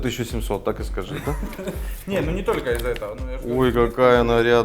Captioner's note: laughs